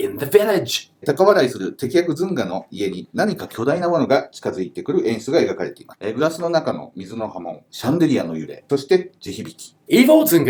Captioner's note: speaking Japanese